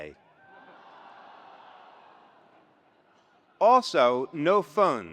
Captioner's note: attendees laughs